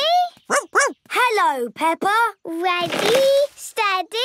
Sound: snorts; barks

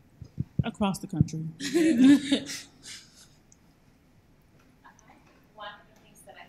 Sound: laughs

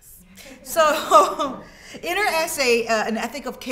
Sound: students laughing

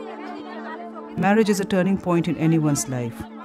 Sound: voice-over

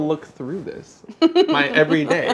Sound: laughs

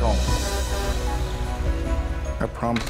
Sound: honking

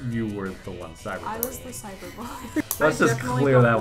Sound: laughs

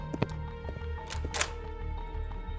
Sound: door opens

